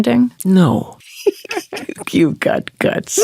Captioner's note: laughing